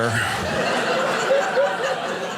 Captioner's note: audience laughing